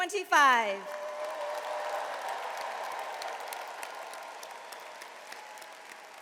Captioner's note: audience cheers and applauds